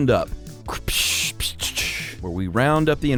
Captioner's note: cracks whip